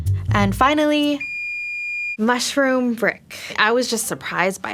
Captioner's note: oven beeps